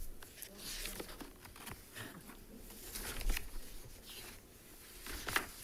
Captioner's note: papers shuffling